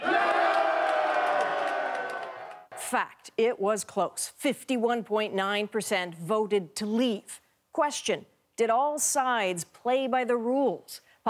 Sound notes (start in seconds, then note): 2.0 cheers and Applause